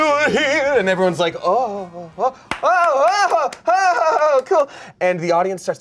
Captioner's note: applauds